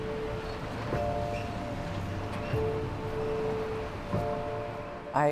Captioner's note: soft zooming and creaking